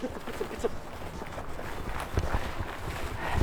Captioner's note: rustling noise